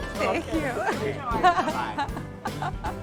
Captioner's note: laughs